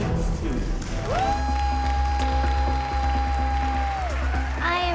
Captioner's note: cheers, applause